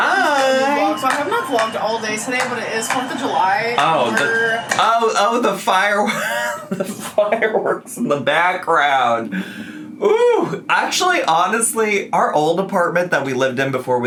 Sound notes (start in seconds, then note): 6.0 laughs